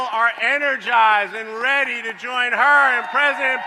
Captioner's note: applause